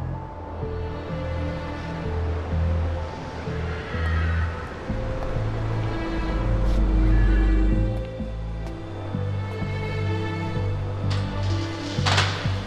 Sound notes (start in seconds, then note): 3.6 cars zoom by overhead